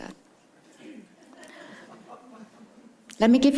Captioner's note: attendees chuckle